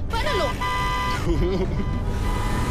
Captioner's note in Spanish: Claxon